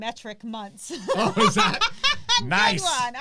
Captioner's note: laugh